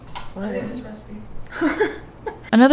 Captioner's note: laughs